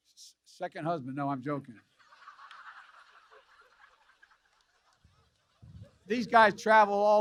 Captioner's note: laughter